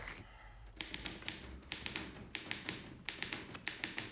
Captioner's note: typewriter clacks